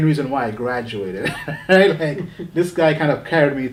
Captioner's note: laughing